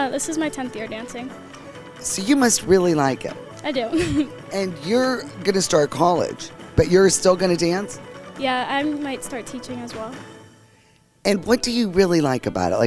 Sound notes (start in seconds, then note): 3.8 chuckles